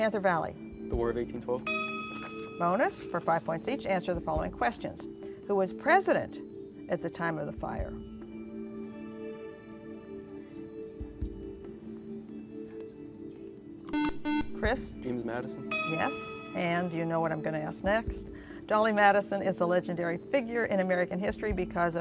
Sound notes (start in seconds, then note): 8.0 whispering; 13.9 buzzer